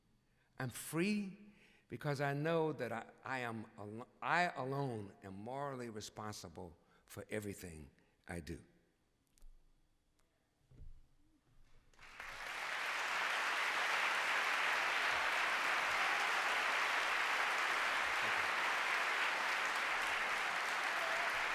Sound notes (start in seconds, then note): 11.9 applause